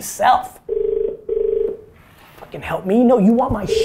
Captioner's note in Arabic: رنين الهاتف